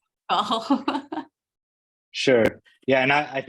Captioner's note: laughs